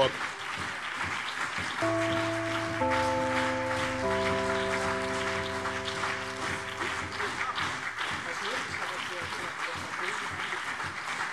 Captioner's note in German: Anhaltender Beifall BÜNDNIS 90/DIE GRÜNEN und CDU